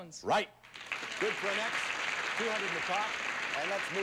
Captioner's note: audience applauding